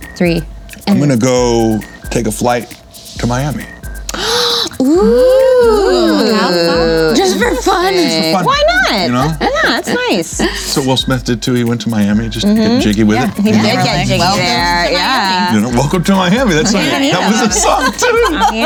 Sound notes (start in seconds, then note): 4.0 gasps; 18.0 laughing